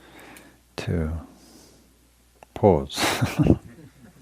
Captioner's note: chuckles